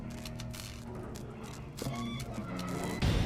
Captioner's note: eerie music; footsteps